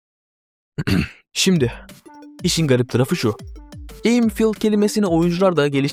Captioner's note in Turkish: boğazını temizler